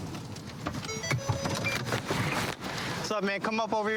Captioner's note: car notification bell dings